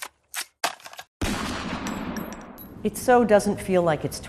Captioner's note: gunshot